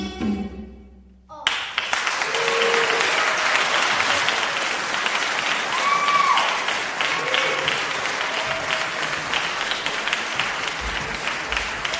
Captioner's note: applause